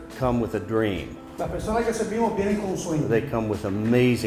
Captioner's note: interpreter speaking in Spanish